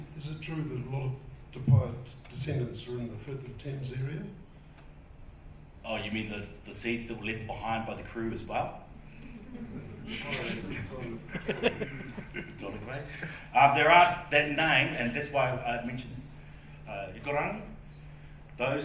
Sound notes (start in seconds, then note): 11.8 laughing